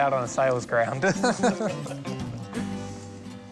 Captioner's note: laughs